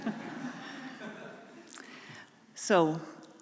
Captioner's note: laughter